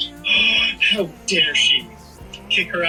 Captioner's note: gasps